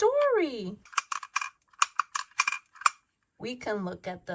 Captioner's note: metal clanks rhythmically